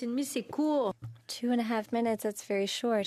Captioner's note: speaking French